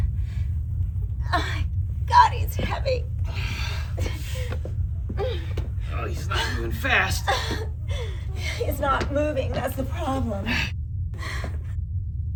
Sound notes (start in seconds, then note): 0.8 Kathleen groaning